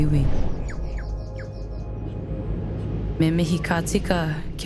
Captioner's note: birds warble